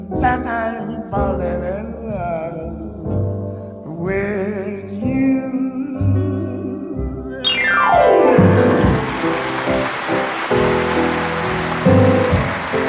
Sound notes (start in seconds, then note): 7.3 jazzy music; 8.3 audience applauds